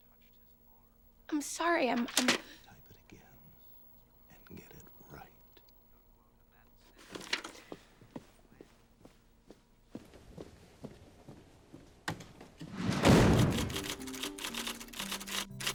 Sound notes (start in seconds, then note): 2.9 whispering